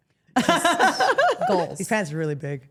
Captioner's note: Steph laughs